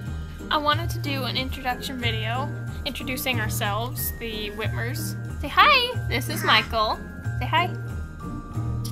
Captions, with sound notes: "I wanted to do an introduction video introducing ourselves, the Whitmers. Say hi! This is Michael." "Say hi." ... *babbling noises*